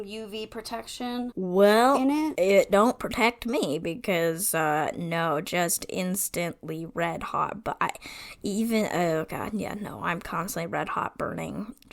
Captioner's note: stammers